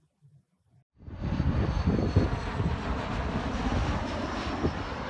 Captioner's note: plane engine roaring